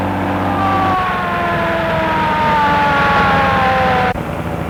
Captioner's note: siren blaring